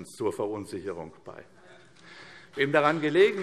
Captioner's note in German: Beifall CDU